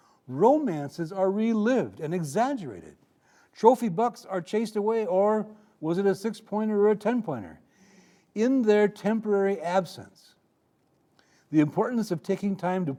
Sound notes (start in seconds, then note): none